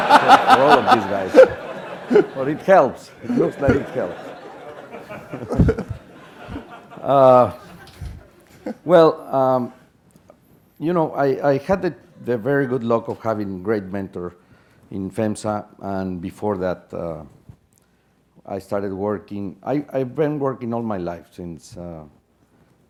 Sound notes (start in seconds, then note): 1.8 laugh